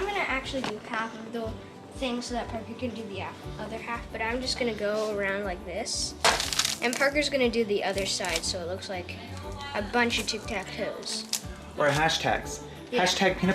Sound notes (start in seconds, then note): 6.3 paper rustles